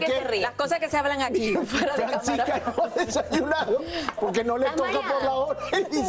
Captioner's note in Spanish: risas